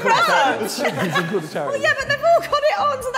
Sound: laughing

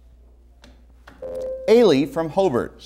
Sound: buzzer

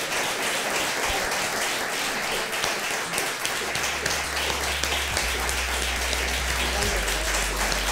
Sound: applause

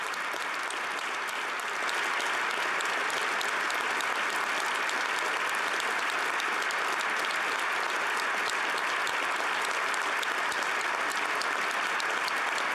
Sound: applause

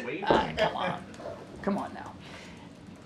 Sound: laughter

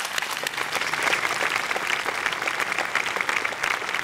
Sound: applause

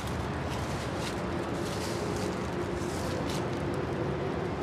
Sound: steps on dead leaves

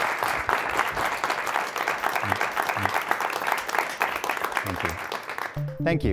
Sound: applause

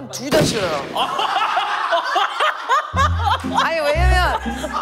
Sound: laughing

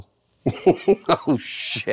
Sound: laughing

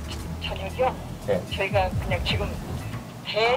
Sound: heart thumping

